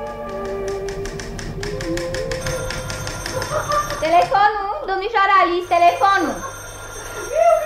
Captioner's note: the phone rings